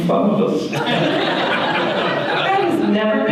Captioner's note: audience laughter